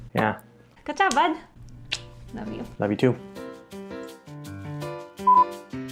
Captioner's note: kiss